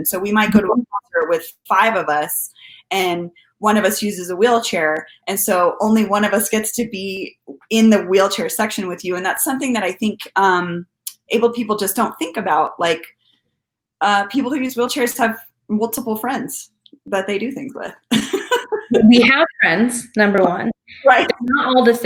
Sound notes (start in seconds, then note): 18.1 laughing; 18.7 audio distorting